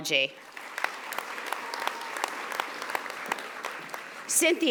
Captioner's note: audience applauding